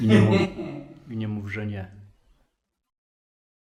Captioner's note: laughing